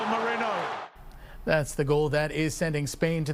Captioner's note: applause